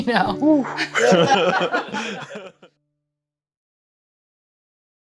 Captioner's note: laughs